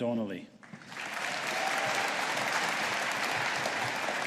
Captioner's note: audience applauding